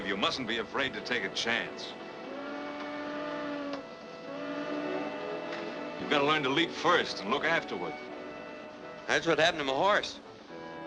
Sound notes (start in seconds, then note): 2.3 steam whistles